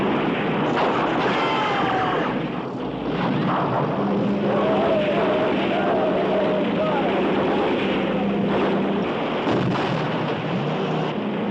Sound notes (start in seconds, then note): 1.3 man cries out; 3.3 engines roar; 8.4 blast